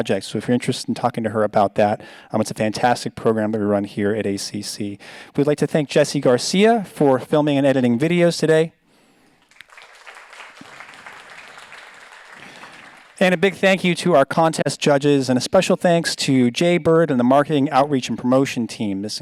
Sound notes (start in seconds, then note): 9.4 audience applauds